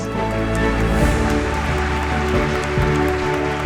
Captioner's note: applause